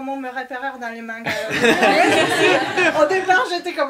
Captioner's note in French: rires